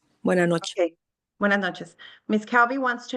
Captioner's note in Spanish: hablando en español